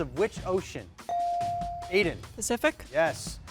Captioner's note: bell chiming